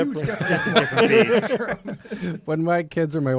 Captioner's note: laughter